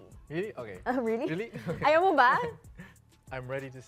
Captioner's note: laughs